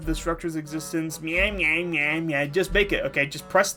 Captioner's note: mocking voice